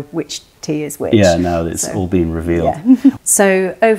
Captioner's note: laughter